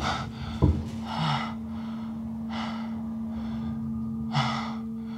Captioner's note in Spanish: respira con dificultad